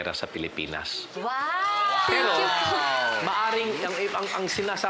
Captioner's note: crowd cheers, applauds